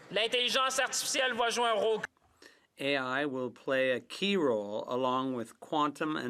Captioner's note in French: voix de l'interprète